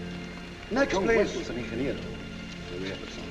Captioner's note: speaking spanish